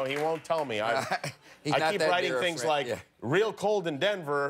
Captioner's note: laughter